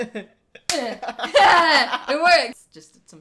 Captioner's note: high-five